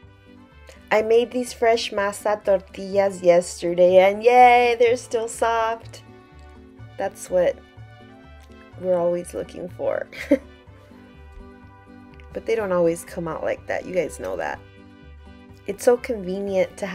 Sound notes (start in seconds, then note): 10.1 giggles